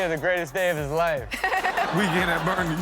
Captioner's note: Chanel laughs